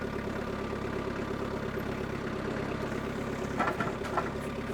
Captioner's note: skid steer engine humming